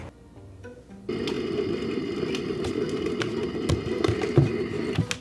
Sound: device crackling

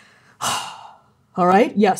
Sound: sighing

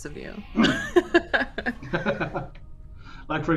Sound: laughs

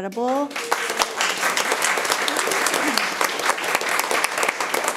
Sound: room applauds

